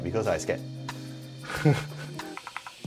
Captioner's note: laughs